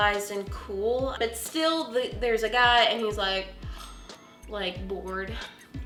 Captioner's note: exhales